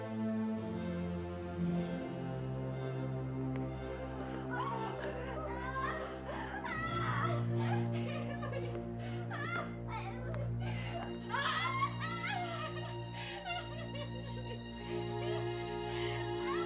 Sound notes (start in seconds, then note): 4.5 Frances screaming; 12.1 crying